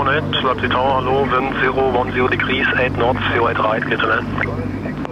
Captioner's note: speaking in foreign language